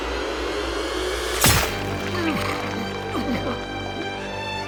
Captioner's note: knife plunges